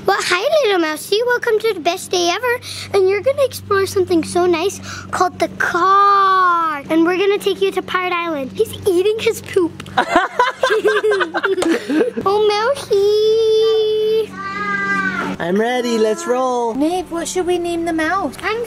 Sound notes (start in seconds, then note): 9.9 laughing